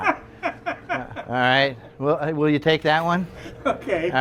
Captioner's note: laughs